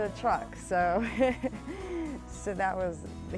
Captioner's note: laughs